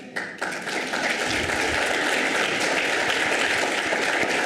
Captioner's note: audience applauds